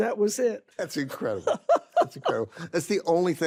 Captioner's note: carol laughs